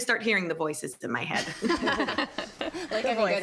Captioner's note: everyone laughing